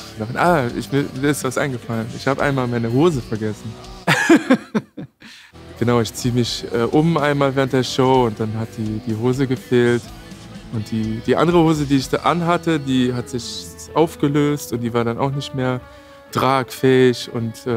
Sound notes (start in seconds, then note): 4.0 laughter